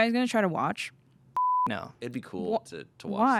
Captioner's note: beep